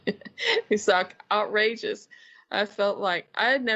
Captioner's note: laughing